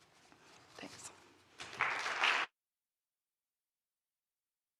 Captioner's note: applause